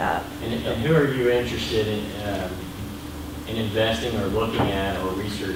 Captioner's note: voiceover